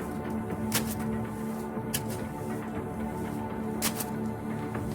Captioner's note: keyboard clacking